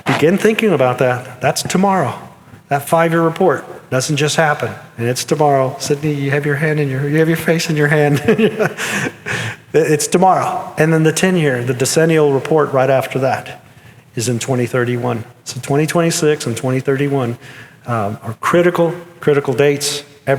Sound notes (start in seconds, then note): 8.0 chuckles